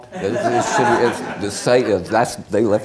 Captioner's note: many laughing